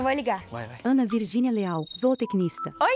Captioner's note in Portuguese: Celular tocando